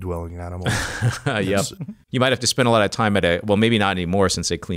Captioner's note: laughs